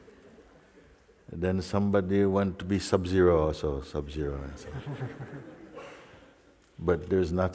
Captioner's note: laughter; laughter